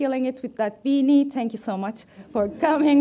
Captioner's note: audience laughs